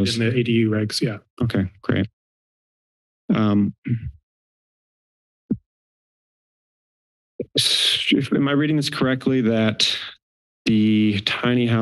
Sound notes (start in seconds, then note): 7.8 exhale